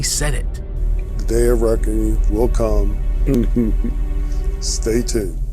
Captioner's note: foreboding chuckling